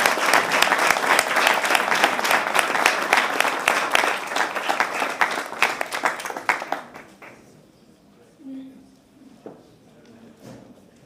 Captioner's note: applause